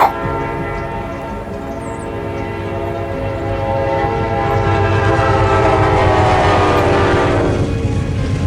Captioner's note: train honking